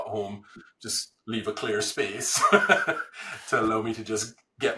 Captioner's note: laughs